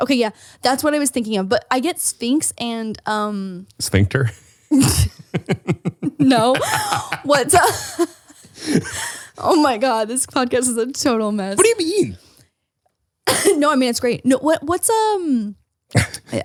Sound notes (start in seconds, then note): 4.8 laughing; 7.6 both laughing